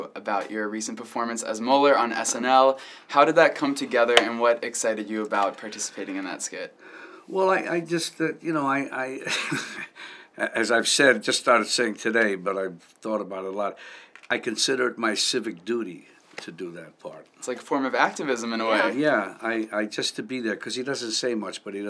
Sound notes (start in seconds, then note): 9.2 chuckles